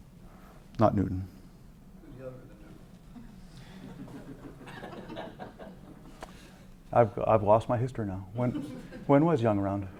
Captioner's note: laugh